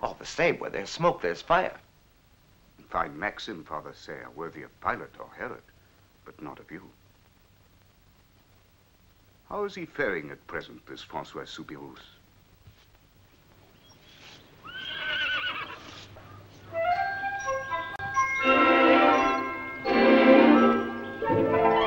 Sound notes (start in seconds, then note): 14.6 horse neighing; 16.7 happy music